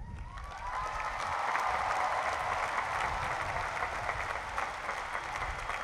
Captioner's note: cheering and applause